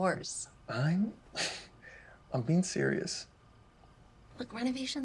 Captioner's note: chuckles